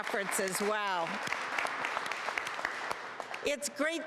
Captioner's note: applause